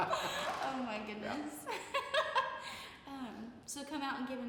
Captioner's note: laughs